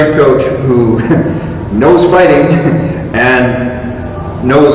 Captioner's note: chuckle; chuckle